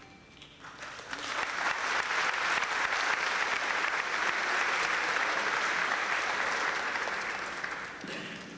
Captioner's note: clapping